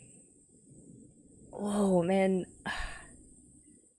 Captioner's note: sighs